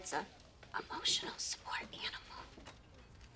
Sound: whispering

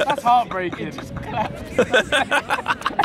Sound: all laughing

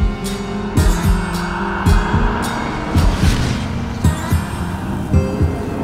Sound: wind whistling softly; ghostly voices whispering

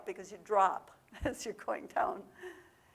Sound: laughs

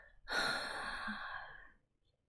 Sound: long sigh

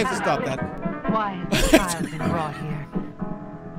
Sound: laughs

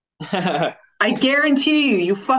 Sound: laughing

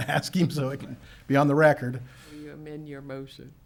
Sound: chuckles

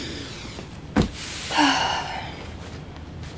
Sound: snorts; resigned sigh

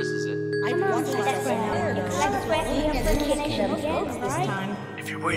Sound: various voices

